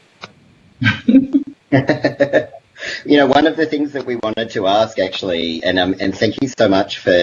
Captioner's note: laughs